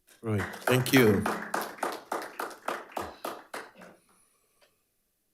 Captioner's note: attendees applauding